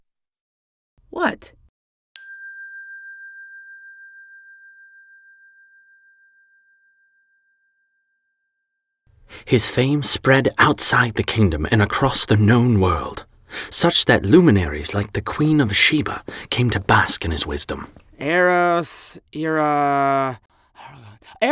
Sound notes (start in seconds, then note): 2.1 bell ringing